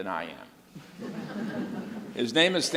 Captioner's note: audience laughs